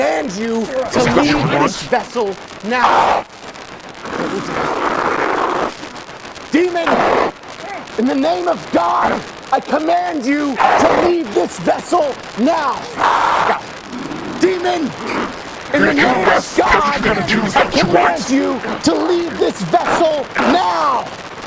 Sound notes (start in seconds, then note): 2.8 demon snarling; 12.8 demon roaring